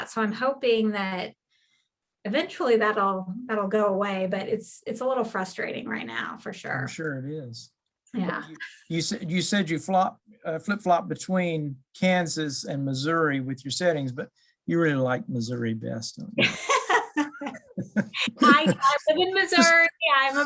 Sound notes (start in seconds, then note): 16.4 both laughing